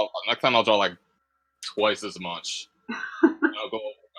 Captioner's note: laughter